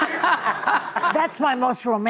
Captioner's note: laughter